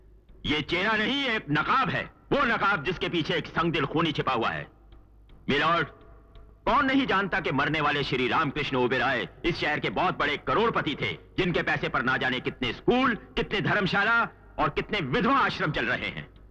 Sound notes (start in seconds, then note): none